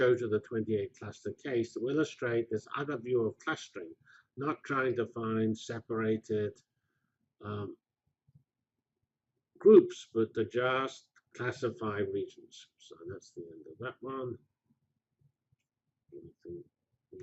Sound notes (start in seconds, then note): 6.7 pause; 14.8 pause